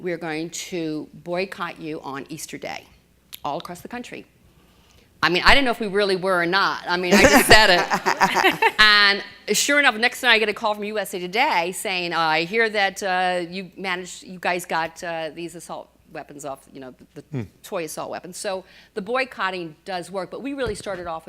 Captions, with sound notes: march, we're going to boycott you on Easter day. All across the country. I mean, I didn't know if we really were or not, I just said it (laughter) and sure enough the next thing I get a call from USA Today saying I hear that you managed, you guys got these assault weapons off you know the toy assault weapons. So, the boycotting does work, but we really started off